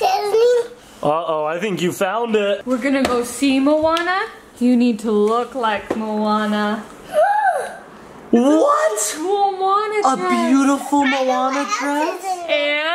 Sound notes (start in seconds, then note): 7.2 gasps